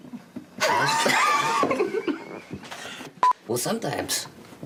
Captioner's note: laughter